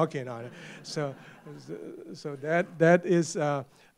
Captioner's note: laughter